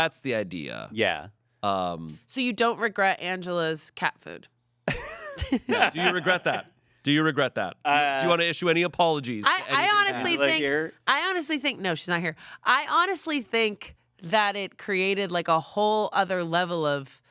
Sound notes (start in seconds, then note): 4.8 laughs